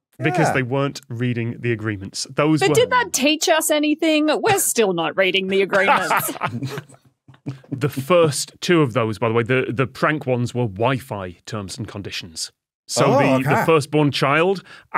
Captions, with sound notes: Because they weren't reading the agreements. But did that teach us anything? We're still not reading the agreements. (laughs) (snickers) The first two of those, by the way, the prank ones, were Wi-Fi terms and conditions. So the first-born child